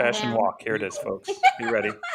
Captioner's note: laughter